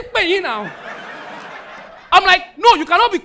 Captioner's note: audience laughing